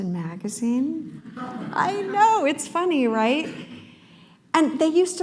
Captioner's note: laughter